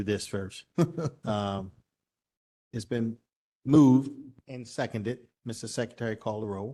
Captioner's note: laugh